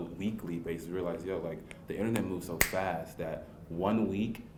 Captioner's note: snaps fingers